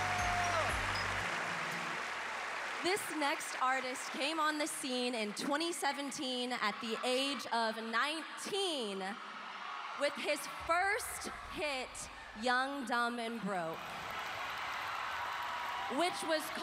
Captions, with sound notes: -Ah! -That's what's up! [applause] This next artist came on the scene in 2017 at the age of 19 with his first hit, "Young Dumb & Broke,"